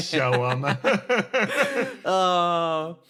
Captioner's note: laughs